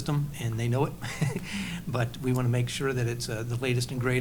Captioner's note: laughs